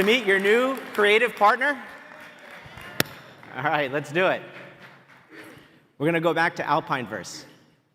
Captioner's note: applause